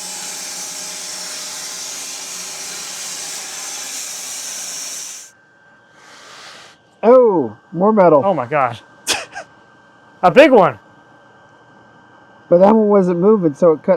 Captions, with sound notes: Oh, more metal. - Oh my gosh. (laughs) - A big one. But that one wasn't moving, so it cut through.